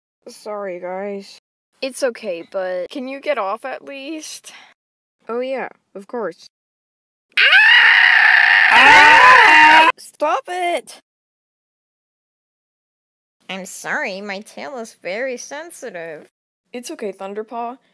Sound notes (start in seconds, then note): 7.4 horrible screeching; 9.0 yelling, screaming